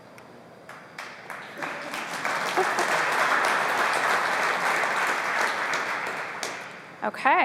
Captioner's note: applause